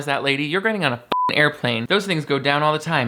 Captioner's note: beep